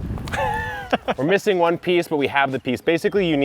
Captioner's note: laughing